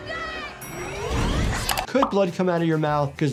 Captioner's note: elevator pings